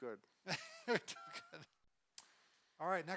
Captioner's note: laughs